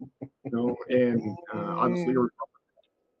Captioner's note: laughing